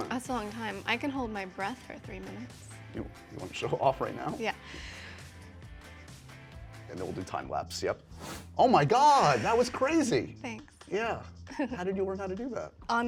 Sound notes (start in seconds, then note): 4.6 inhales